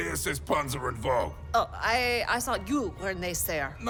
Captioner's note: confused